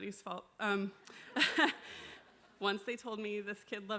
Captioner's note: crowd laughing